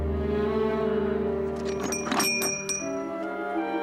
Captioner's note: rings doorbell